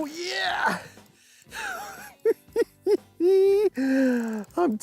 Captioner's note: laughs